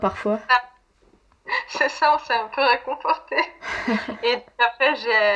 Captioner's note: laughs